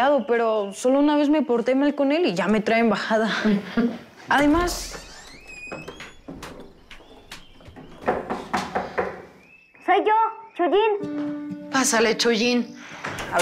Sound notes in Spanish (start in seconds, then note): 4.3 Sonido al abrir la puerta; 7.9 Toques en la puerta